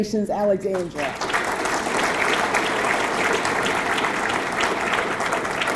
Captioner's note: audience clapping